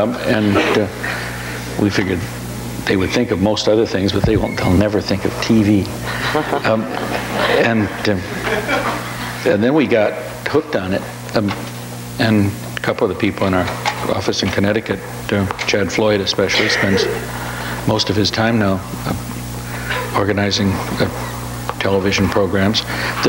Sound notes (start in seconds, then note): 6.0 audience laughs